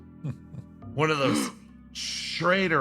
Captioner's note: Wanayaiyo Gasp